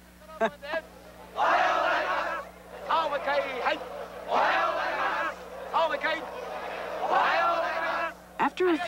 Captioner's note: laughing; shouting